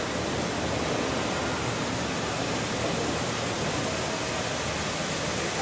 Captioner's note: train arrives